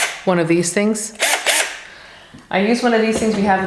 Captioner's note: drill whirs